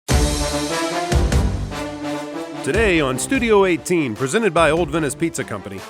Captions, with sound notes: (big band music) - [Voiceover] Today on Studio 18, presented by Old Venice Pizza Company,